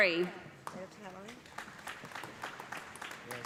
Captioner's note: applause